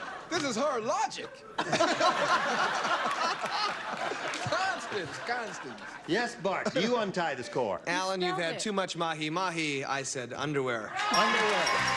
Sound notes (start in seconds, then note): 1.3 laughter